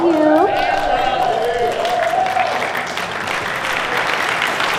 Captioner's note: cheers and applause